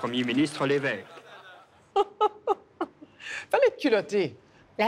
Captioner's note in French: rire